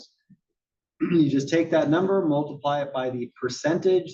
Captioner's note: cough